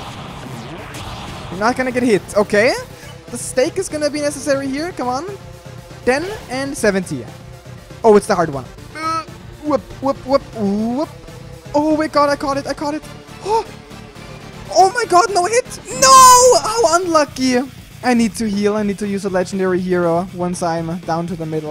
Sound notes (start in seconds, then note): 13.3 gasps